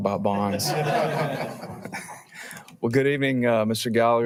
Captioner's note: all laughing